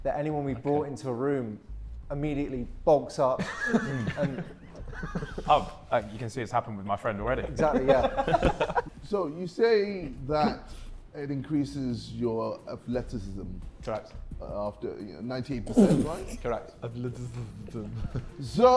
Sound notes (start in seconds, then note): 3.4 Sidemen laughing; 7.4 Sidemen laughing